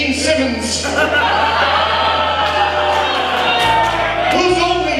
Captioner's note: audience laughs